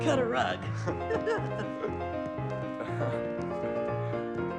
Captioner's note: both chuckling